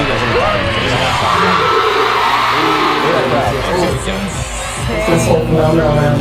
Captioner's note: loud cheering